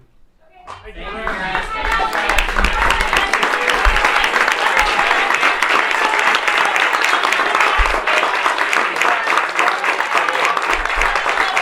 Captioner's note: applause